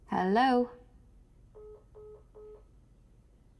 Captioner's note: phone beeps